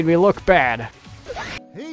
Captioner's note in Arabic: صراخ الرعب